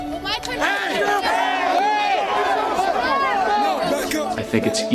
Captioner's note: crowd chanting